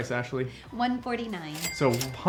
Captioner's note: dinging